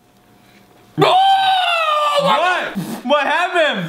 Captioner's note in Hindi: चिल्लाना